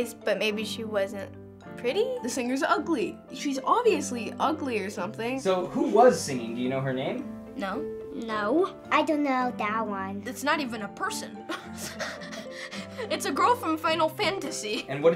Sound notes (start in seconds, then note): 11.5 laughs